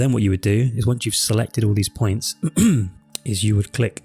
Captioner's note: clears throat